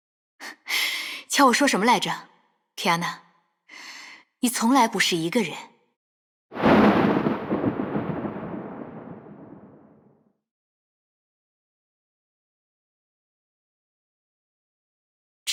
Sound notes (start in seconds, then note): 6.6 rumble